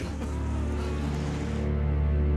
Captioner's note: men wailing; ominous music